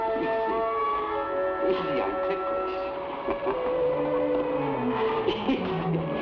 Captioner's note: laughs